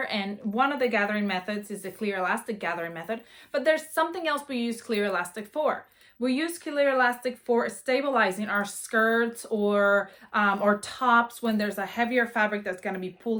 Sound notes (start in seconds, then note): none